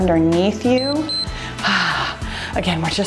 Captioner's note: timer beeps